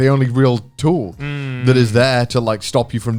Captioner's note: affirmative murmuring